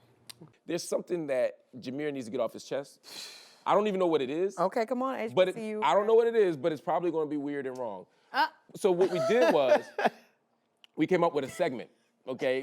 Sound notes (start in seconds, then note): 3.0 exhales; 9.0 laughs